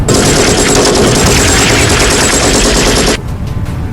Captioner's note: gunshots banging